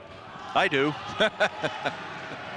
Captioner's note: chuckles